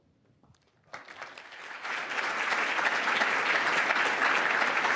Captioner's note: audience clapping